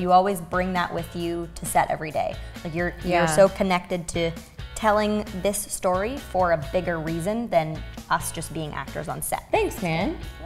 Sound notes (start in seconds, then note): none